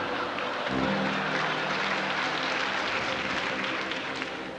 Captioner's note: applause